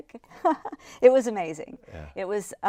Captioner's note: laughs